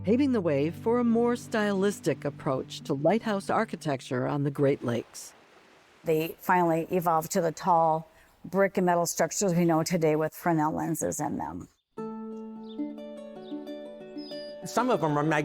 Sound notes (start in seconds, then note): 13.3 birds chirping